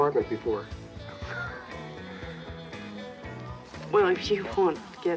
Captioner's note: Richard laughing